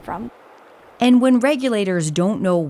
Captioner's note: water rushing